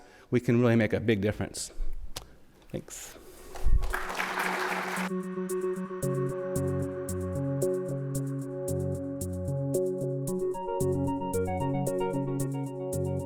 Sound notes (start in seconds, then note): 3.8 audience applauds; 5.0 light upbeat music